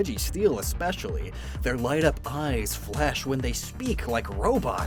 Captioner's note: none